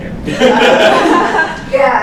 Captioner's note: laughter